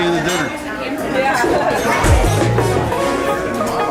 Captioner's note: laughs; percussion music